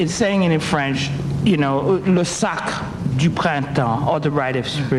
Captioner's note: speaking in French